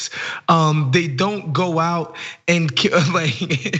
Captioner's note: laugh